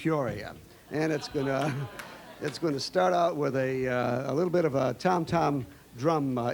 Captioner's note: laughing